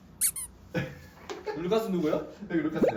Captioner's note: endeared chuckle